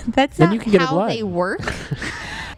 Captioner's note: laughs